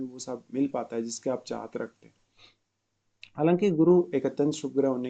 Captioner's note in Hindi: नाक से की जाने वाली आवाज़